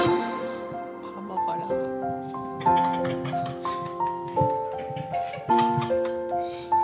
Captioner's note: ahjumma voice